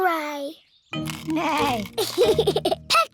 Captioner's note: neighs and giggles